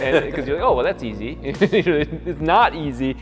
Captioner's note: laughs